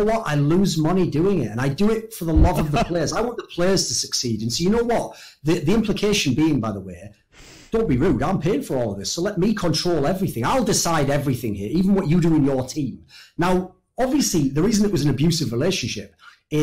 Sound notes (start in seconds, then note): 2.3 laughs